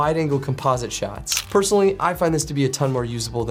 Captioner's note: camera clicks